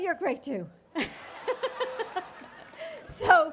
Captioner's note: laughter